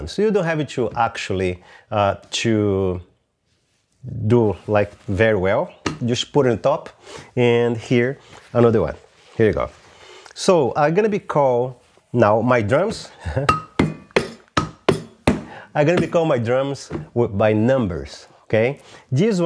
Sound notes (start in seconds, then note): 13.1 laughs